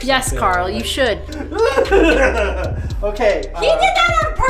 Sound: squeals

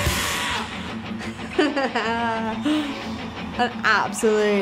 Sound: rock music; laughs

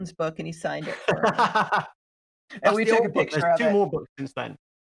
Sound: both laughs

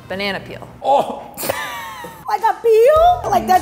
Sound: choking

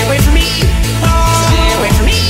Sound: DanTDM Screaming

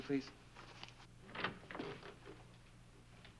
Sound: door opens

